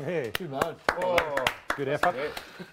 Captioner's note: everyone applauds